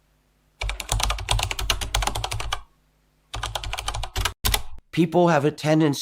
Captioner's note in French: bruit de clavier